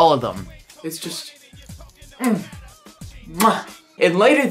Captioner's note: kiss noise